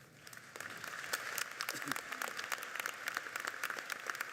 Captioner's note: audience clapping